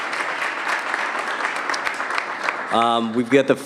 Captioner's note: applause